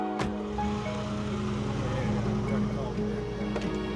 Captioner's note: vehicle departs